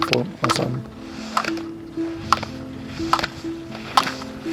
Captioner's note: obstacles rattling